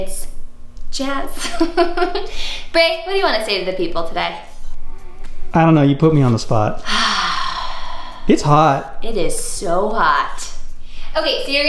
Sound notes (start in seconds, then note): 1.4 laughs; 6.8 sighs